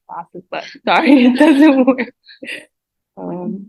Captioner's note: laughs